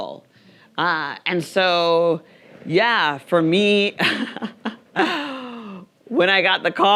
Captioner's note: laughs